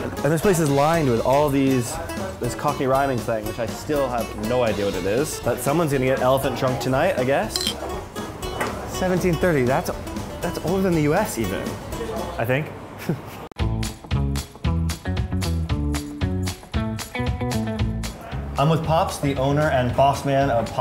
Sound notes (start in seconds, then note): 13.0 giggle; 13.6 upbeat bass guitar